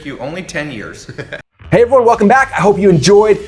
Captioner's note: laughter